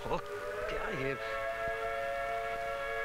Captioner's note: Alarm blaring